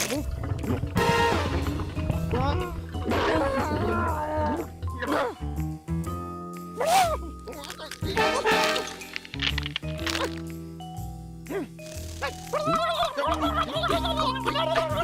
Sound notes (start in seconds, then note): 1.9 whimpers; 6.8 exclaims; 12.4 gobbles angrily